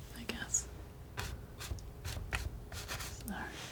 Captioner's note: scratching